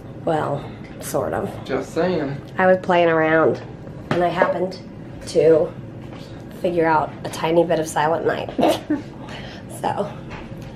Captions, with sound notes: well....sort of just sayin... I was playing around and I happened to figure out a tiny bit of Silent Night (laughs) so...